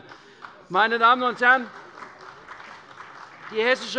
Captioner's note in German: Beifall bei der CDU und dem BÜNDNIS 90/DIE GRÜNEN